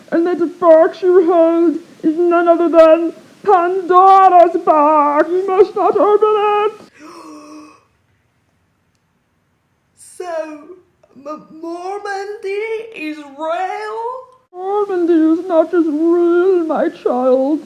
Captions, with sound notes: and that box you hold is none other than... Pandora's Box! You must not open it! *gasp* So... M-mormondy... is real? Mormondy is not just real, my child